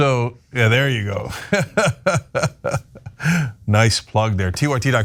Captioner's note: laugh